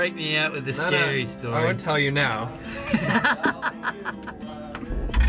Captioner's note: laughs